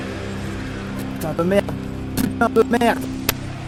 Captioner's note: bad quality audio Past me noises